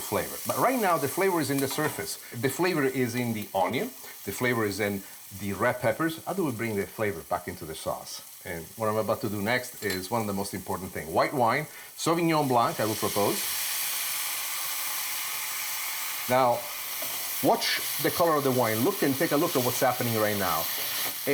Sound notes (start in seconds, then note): 13.5 wine sizzling